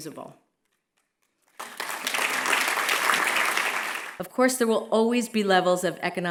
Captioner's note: applause